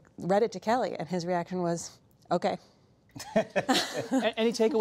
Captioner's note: laughter